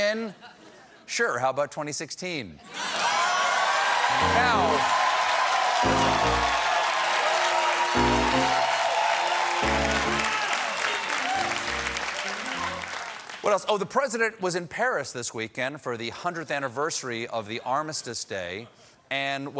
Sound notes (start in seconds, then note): 2.7 cheers and applause; 3.4 piano riff